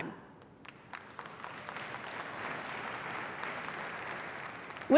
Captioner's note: applause